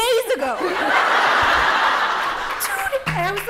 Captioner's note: laughter